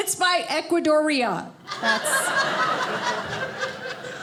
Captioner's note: audience laughing